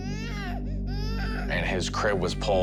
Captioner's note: baby crying